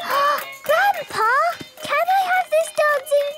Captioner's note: gasps; upbeat music